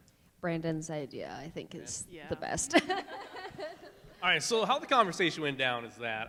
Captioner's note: laughs